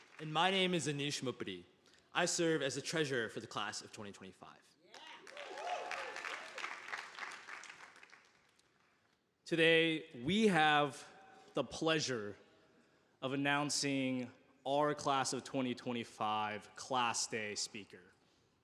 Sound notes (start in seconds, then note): 5.0 audience applauding